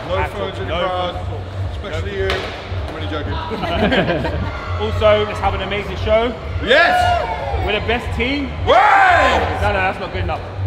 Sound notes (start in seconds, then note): 3.4 group laughing; 8.4 group cheers